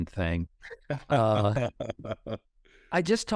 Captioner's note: chuckles